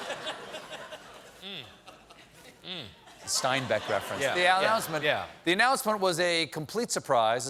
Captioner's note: laughter